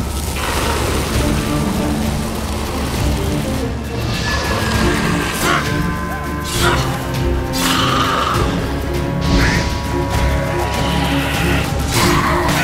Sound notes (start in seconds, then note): 0.1 flames crackle; 4.6 raspy wail; 9.1 screech; 9.2 flames whoosh